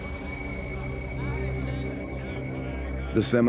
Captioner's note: group chattering